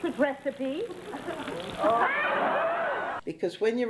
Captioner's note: audience laughs